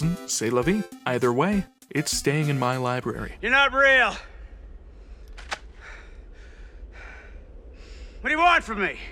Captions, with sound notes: c’est la vie. Either way, it’s staying in my library. "You're not real!" *ker-thunk* "What do you want from me?!"